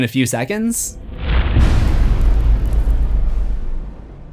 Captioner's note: impact